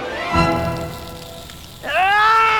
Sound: sizzling

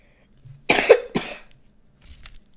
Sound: cough cough

